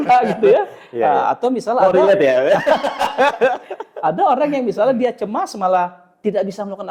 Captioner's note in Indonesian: tertawa